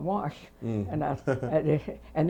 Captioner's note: laughs